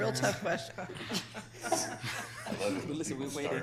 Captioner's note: people laughing